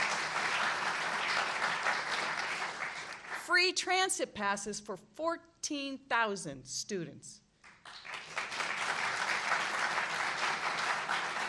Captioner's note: applause